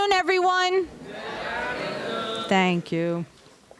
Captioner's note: crowd